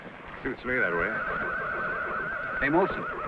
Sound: Champion whinnies

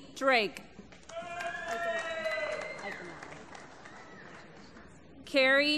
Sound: applause

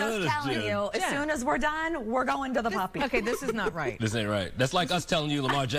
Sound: laughter

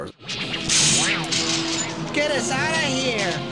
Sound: sci-fi noises

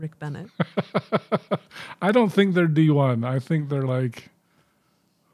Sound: chuckling

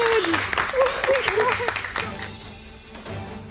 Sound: all applause; laughs

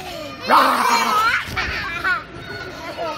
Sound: children laughing; imitates monster roar

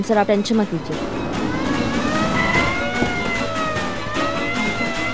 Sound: police car approaching

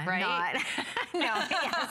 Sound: laughter

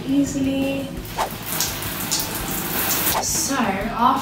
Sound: water running

